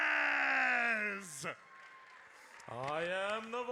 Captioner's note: audience cheers